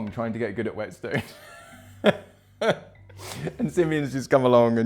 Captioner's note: laughing